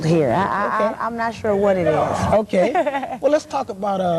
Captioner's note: laugh